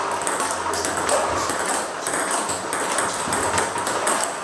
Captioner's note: ball ping pong hitting continues